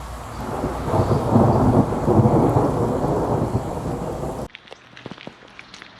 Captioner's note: thunder noise